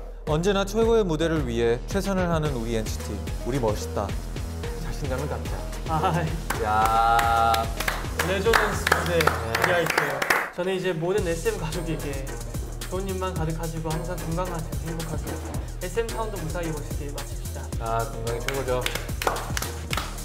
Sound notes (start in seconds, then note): 6.4 group applause; 6.8 applause